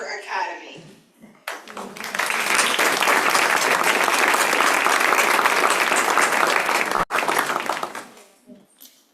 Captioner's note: applause